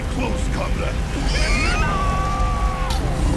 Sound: screaming

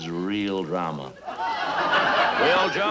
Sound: audience laughing

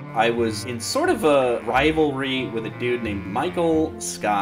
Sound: none

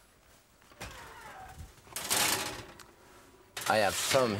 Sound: oven opening

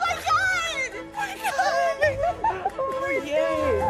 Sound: chuckling

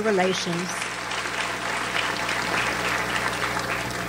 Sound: audience applauds

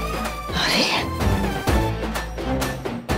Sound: gasps

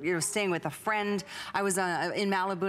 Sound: none

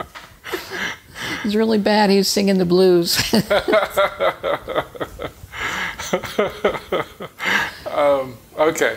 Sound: chuckling

